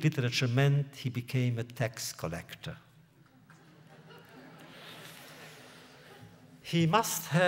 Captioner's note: laughter